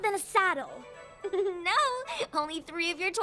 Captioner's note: chuckles